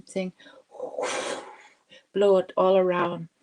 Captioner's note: speaking Indigenous language; blows air